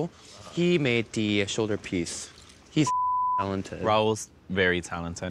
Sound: beep

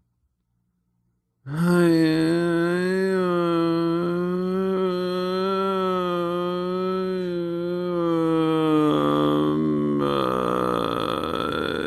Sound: moaning sound

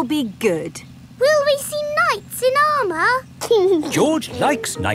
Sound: giggling

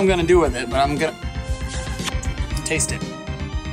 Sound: smooch

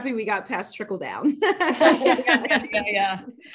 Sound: laughter

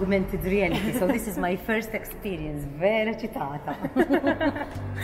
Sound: chuckles

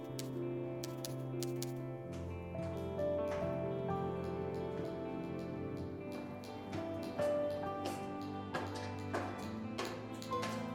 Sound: typing

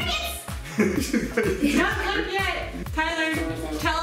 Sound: laughing

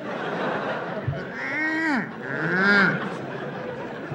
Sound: mooing

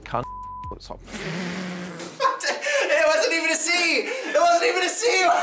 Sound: beep; laughing

